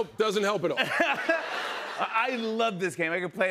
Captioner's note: laughter